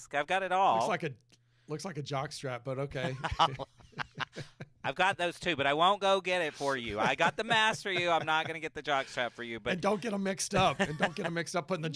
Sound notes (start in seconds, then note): 3.0 both laughing